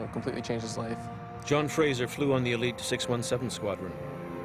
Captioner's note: voiceover